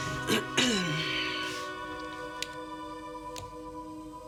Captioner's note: Nora clears throat